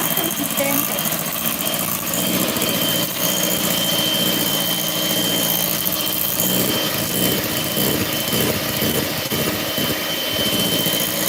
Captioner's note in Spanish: ruido de batidora